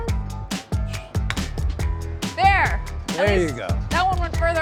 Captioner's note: club striking